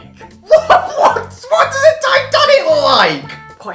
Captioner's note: laughing